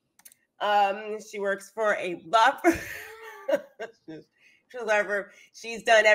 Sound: laughs

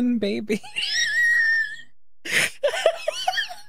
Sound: wheeze; laughter

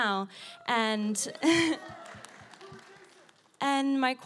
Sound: applause

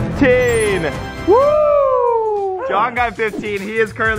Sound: cheering

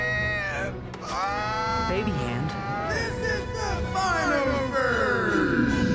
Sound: yelling

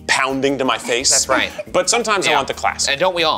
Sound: chuckles

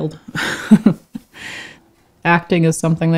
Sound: laughs

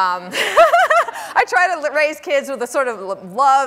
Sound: laughs

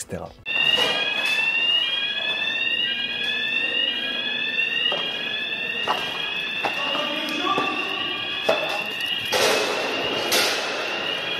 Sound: sound of alarm

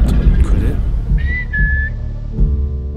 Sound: whistle

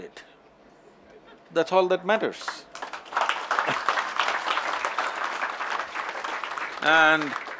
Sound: applause

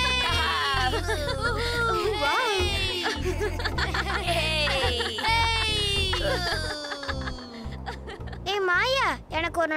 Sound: laughing Continues

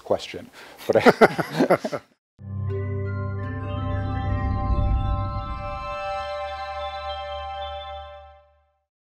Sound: laughter

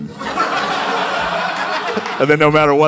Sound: laughter

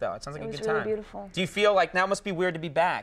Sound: none

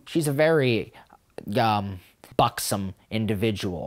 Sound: none

